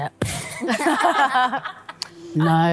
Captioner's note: all laughing